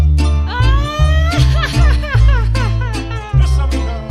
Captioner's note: jarocho music; chuckles; band speaking in Spanish